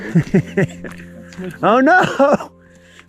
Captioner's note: laughing